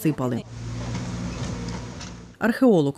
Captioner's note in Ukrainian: Шум будівельної техніки